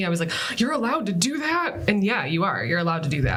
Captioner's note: gasps